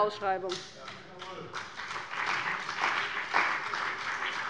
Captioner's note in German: Beifall bei dem BÜNDNIS 90/DIE GRÜNEN und der CDU